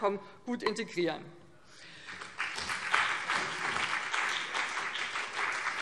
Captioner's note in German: Beifall BÜNDNIS 90/DIE GRÜNEN und vereinzelt CDU